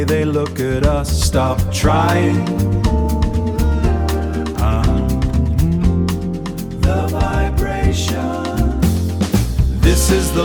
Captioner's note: the vibration